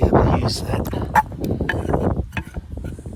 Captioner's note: wind noise